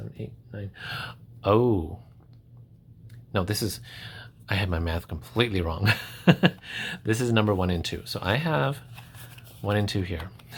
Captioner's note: gasp!